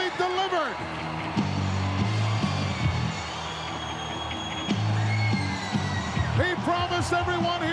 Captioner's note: crowd cheering; frenetic music